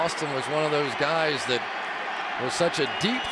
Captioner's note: cheering